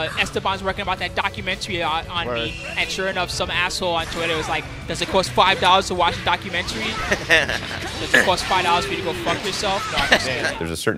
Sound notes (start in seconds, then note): 2.2 spooky; 7.0 commentator laughs; 10.0 commentator laughs